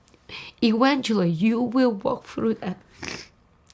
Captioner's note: sniffs